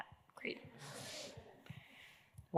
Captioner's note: laughter